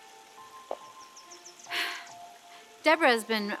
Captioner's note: sighs